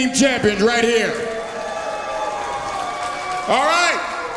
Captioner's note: audience cheers